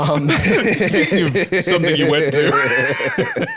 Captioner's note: laughs